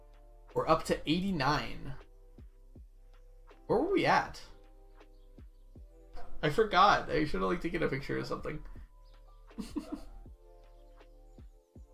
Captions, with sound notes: We're up to 89. Where were we at? I forgot. I should have taken a picture or something. (laughs)